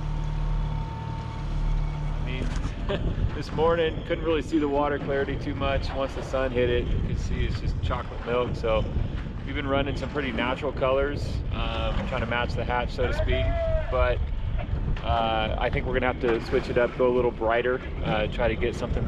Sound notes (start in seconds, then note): 2.4 boat engine idling